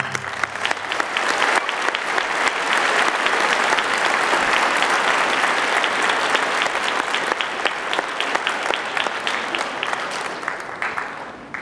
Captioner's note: applause